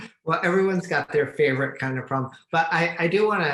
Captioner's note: laughs